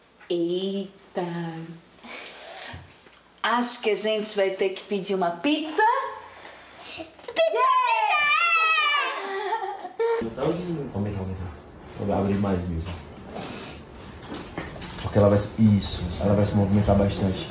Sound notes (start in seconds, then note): 9.1 chuckles; 10.2 indistinct chatter